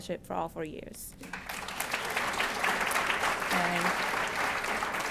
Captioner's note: applause